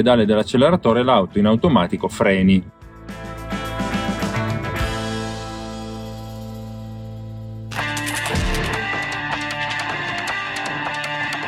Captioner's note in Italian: Applauso